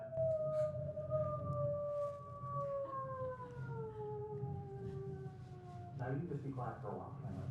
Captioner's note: person making howling sounds